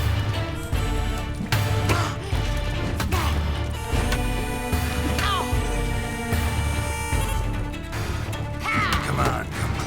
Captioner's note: both grunting, groaning